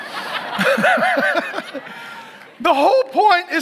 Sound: laughs

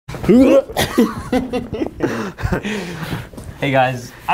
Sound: laughing

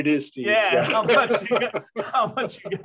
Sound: laughter

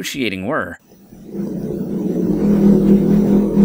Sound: low rumbling

